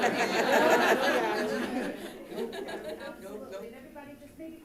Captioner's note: all laughing